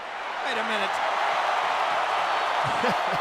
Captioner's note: chuckles